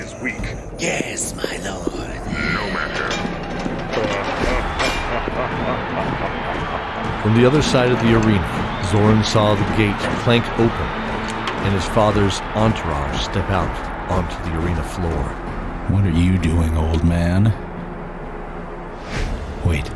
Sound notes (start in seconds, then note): 2.2 laugh; 3.9 laughter